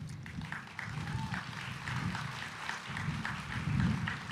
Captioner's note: audience applauding